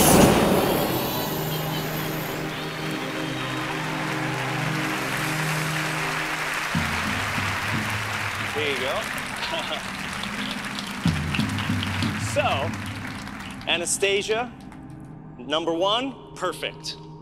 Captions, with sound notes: (fire whooshing) (audience cheering) There you go. (chuckling) So Anastasia, number one, perfect.